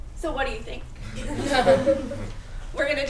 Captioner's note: laughter